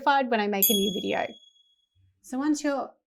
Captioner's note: bell dings